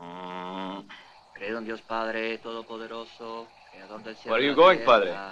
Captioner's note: Spanish spoken audio